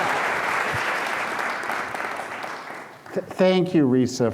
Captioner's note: applause